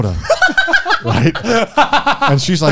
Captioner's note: laughs